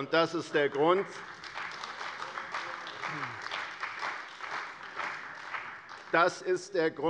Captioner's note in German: Beifall bei der CDU und dem BÜNDNIS 90/DIE GRÜNEN